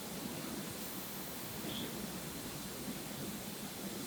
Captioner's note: whisper sound